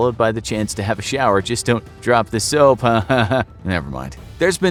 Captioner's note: forced laughter